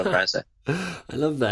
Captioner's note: chuckles